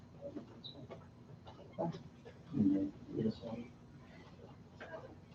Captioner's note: board members whispering